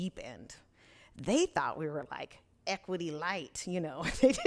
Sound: laughs

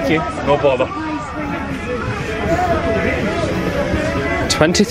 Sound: commuters chatting indistinctly

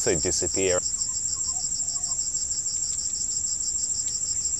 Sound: animal noises

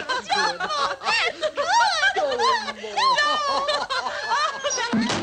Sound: laughing

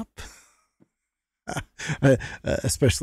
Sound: laughs

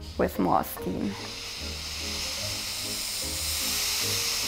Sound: iron hisses

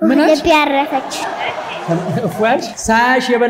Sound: laughter

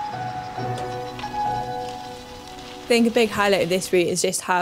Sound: bike rustling

